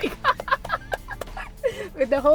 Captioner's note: laughter